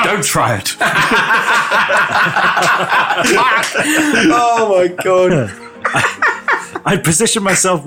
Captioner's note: nerd laughing